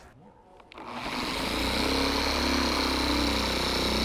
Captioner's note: polisher whirring